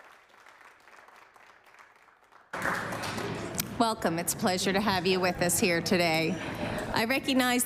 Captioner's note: applause